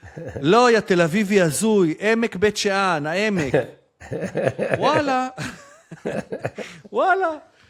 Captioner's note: laughter